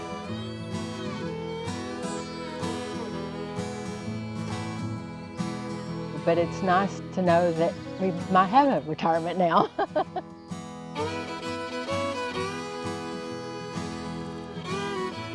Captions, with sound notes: (heartwarming country music continues) But it's nice to know that we might have a retirement now. (laughs)